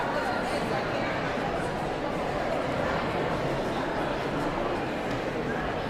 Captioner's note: audience chattering continues